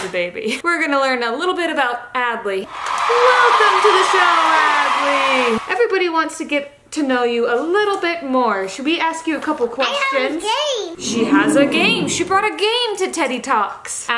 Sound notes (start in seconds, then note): 2.6 audience applauding; 11.0 audience oohs